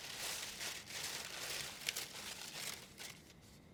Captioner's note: leaves rustling